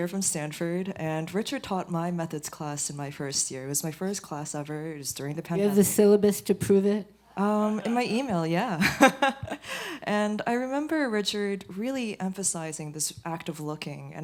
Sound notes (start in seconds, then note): 7.3 laughter; 8.8 laughs